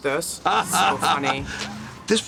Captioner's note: laughs